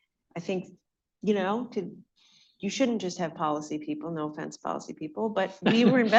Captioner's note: laughter